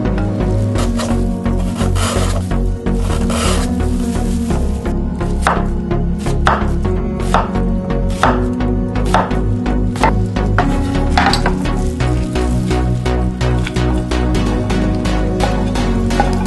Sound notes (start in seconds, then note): 0.6 slice a carrot, slicing sound in the background; 4.3 chop an onion, chopping sound in the background; 13.3 stir-fry carrots and onions, sizzling sound in the background